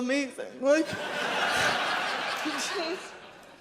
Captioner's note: audience laughs